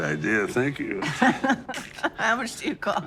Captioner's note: both laughing